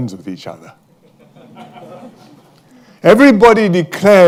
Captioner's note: laughter